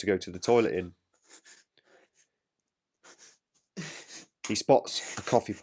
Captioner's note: Baker panting